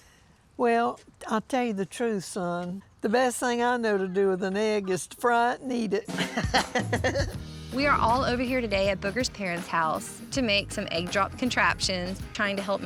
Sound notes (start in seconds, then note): 6.1 both laughing